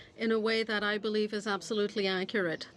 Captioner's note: speaking French